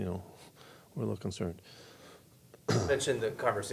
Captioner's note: coughs